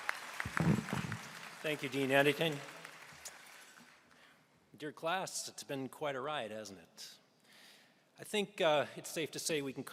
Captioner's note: applause